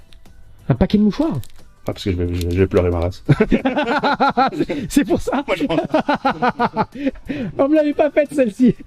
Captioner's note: laughs